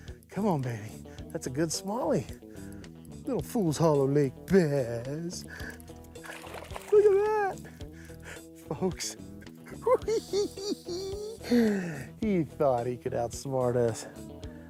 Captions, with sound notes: Come on, baby. That's a good smallie. Little Fool's Hollow Lake bass. Look at that, folks. [giggles] He thought he could outsmart us.